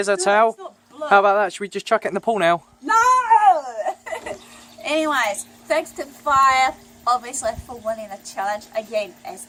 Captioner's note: laughing